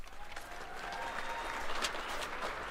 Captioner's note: cheers and applause